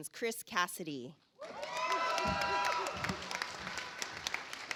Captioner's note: audience applauds